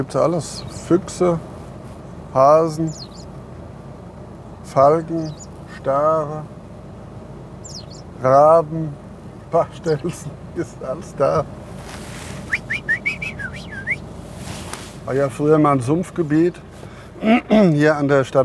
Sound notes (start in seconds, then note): 12.4 he whistles; 17.2 clears his throat